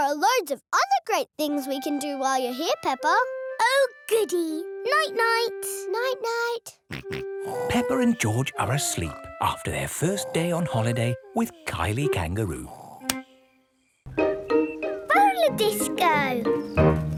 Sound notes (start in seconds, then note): 7.4 snorts; 7.5 snores